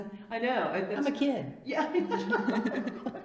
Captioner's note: laughs